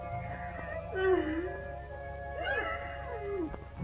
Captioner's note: crying